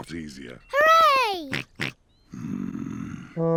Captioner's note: snorts